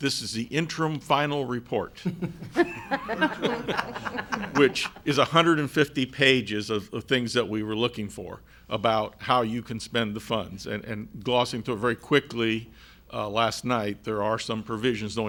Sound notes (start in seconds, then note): 2.0 laughs